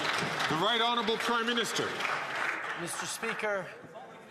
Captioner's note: some Applause